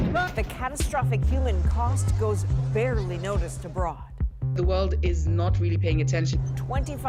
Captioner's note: bombing